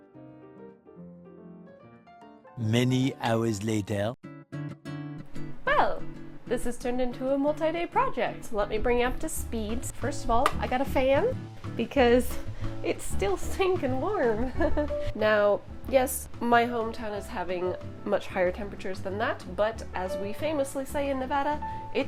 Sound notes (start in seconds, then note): 2.6 Spongebob Squarepants parody voice